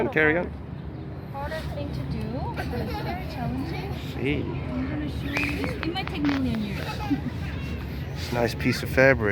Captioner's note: general laughter